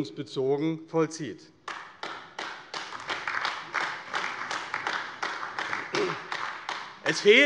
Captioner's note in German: Beifall AfD